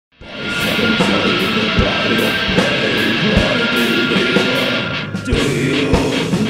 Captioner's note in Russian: скрим; гроул